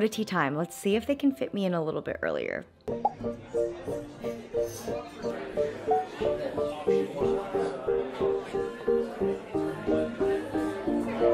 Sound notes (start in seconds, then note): 2.7 gentle music; 3.1 group chattering